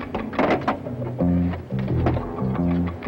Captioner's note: phone receiver thuds; suspenseful music